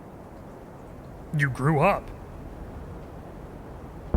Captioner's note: air whooshing